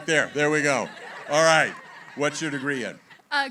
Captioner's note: laughter